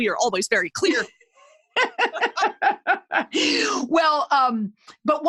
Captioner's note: laughing